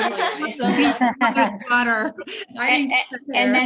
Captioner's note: group laughs